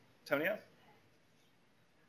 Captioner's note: pause